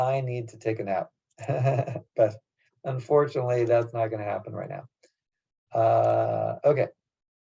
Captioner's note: laugh